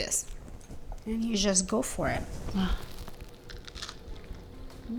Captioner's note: sighs